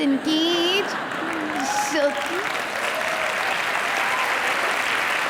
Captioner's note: audience applause